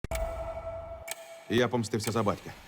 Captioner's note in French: tic-tac